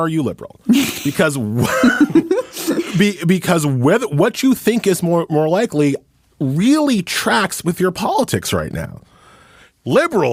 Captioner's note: laughs